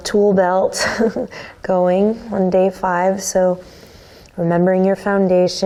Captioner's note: chuckles